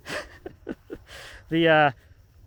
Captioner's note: laughing